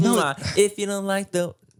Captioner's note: Manny smooches